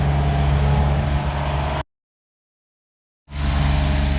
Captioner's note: engine running